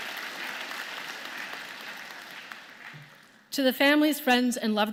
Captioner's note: applause